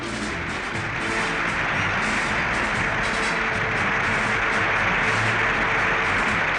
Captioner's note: cheers and applause